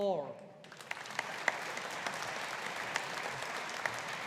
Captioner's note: audience applauding